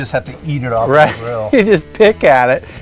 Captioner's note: laughs